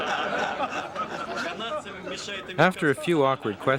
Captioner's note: all laughing; russian crew member speaking Russian